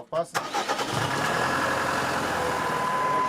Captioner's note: engine starts and then hums; high-pitched whirring